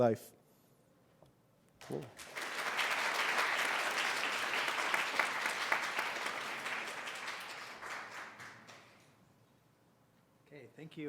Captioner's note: applause